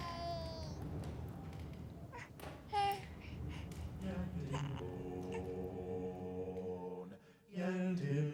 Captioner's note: baby sounds